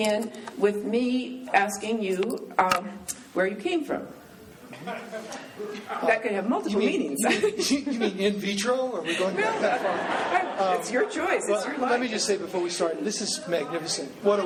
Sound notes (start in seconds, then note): 4.7 laughing; 9.1 laughing